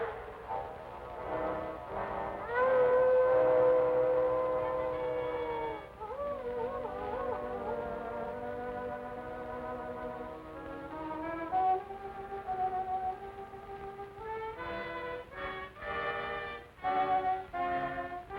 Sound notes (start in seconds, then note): 2.4 wolf howling in distance